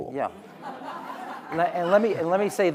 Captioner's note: audience laughing